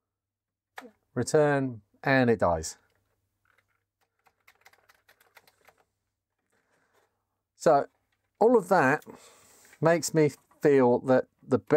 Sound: keyboard Clacking

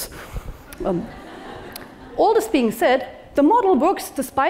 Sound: laugh

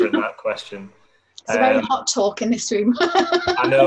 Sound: laughs

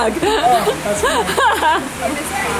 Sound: laughing

